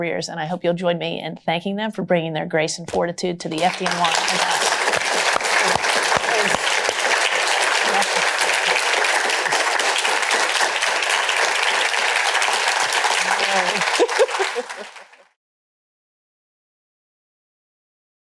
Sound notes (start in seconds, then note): 4.9 applause; 9.6 applause continues; 13.3 laughs